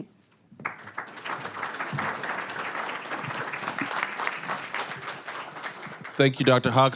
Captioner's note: applause